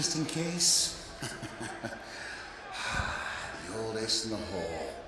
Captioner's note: chuckles